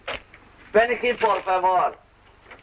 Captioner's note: Spanish spoken audio